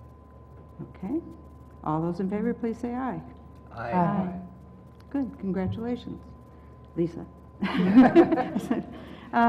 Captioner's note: laugh